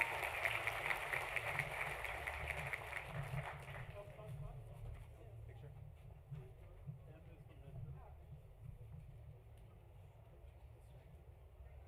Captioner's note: applause